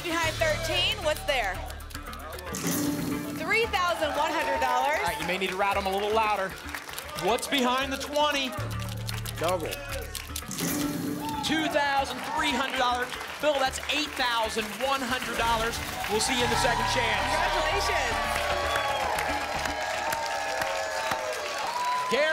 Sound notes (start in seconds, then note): 8.5 buckeyes rattle; 18.4 applause and cheering